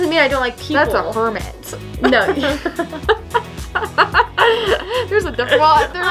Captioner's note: laughing